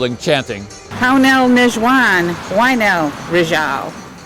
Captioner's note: non-english speech